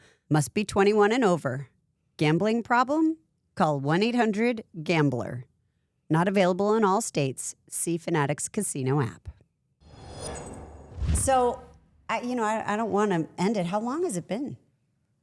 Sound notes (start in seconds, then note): 9.8 logo whooshing